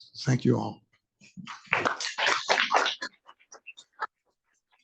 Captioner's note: audience applauds